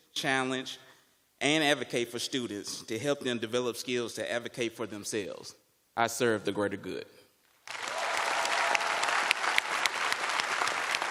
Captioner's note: cheers and applause